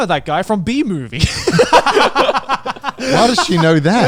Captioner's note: everyone laughs